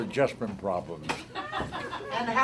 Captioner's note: laughter